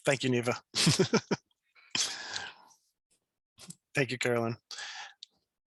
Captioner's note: chuckles